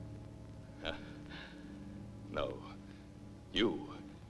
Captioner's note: laughs